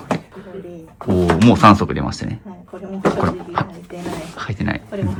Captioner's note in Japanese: 咳払い